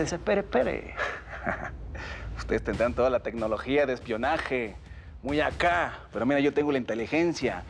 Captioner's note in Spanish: risas